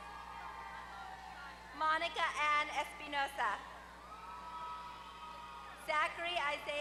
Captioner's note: applause